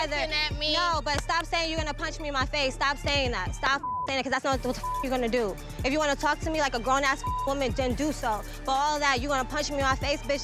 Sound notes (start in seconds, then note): 3.7 beep; 7.2 beep